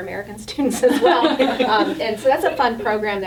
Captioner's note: all laughing